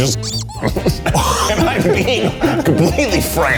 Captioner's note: squeak; laughs